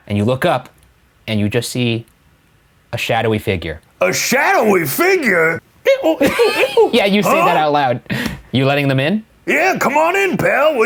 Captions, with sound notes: - And you look up and you just see a shadowy figure. - A shadowy figure? (mimicking scrubbing sound effects) - (laughing) Yeah, you say that out loud. You're letting them in? - Yeah, come on in, pal!